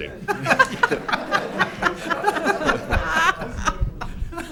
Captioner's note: laughing